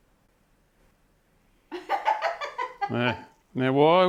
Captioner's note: laughing